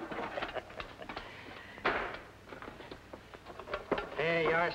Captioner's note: salesman chuckling